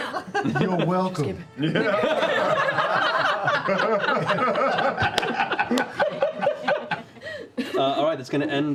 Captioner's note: laughter